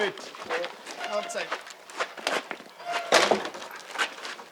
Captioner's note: grinding, squeaking, clattering